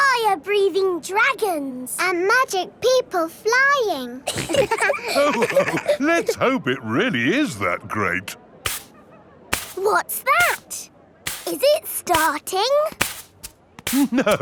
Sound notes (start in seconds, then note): 4.2 all laughing; 8.6 brushing